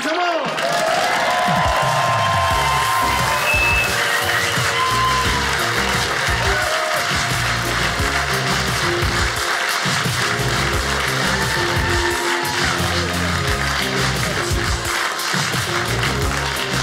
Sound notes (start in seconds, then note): 0.4 upbeat music; 1.6 audience cheers; 3.8 audience applauding